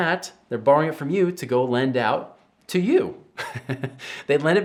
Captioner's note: chuckles